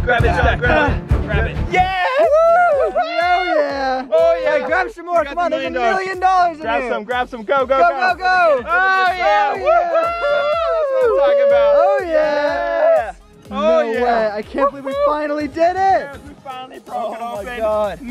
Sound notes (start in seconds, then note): 2.7 upbeat electronic music; 3.6 cheering; 11.7 cheering